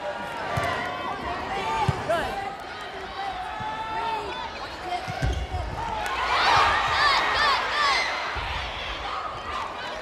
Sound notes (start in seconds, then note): 5.9 players yelling